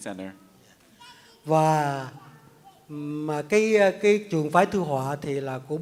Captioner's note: speaks in Vietnamese